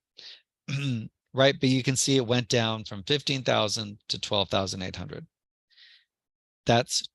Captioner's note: cough